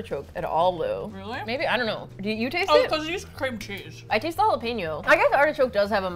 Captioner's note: mouth full